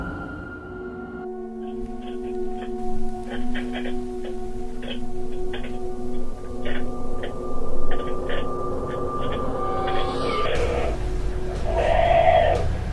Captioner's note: sounds from the baby monkeys